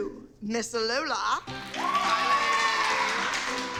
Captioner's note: cheering and applause